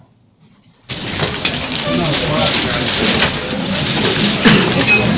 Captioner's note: audience chattering